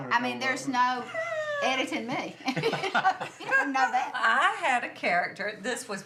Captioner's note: laughs